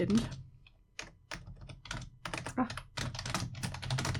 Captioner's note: typing